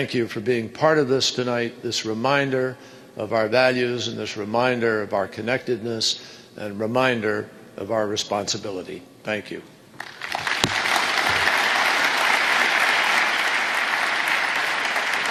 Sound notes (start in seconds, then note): 10.0 applause